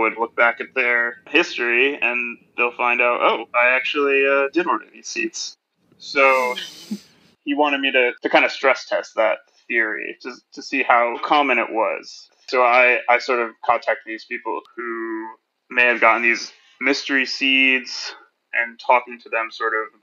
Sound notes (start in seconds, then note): 6.2 laughs